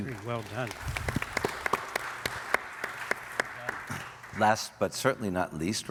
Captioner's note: audience applauding